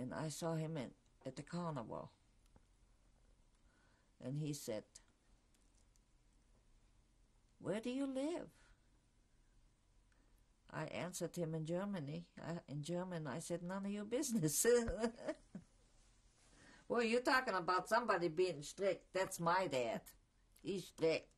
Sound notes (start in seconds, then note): 5.4 pauses for 3 seconds; 14.8 laughs